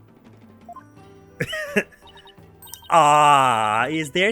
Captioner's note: awkward pause; laughs